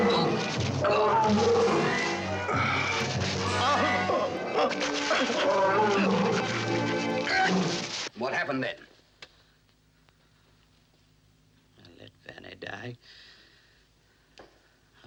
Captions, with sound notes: (groaning) - What happened then? - I let Vanet die.